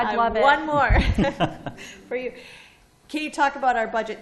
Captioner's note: laughter